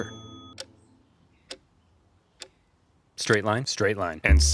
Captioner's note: clock ticking